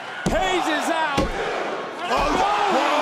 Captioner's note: crowd counting